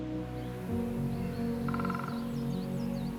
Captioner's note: woodpecker Drumming